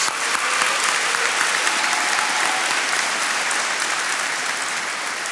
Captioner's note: attendees applauding